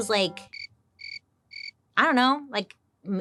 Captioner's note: crickets chirping